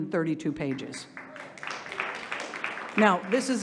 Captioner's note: audience applauding